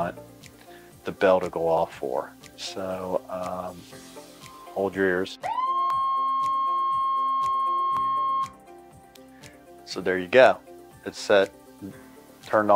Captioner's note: beeps